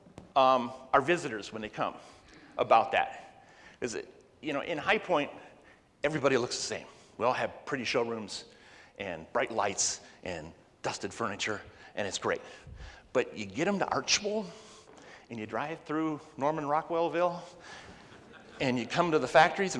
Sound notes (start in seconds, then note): 18.0 laughs